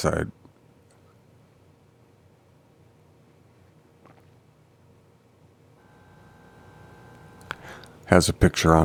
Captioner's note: silence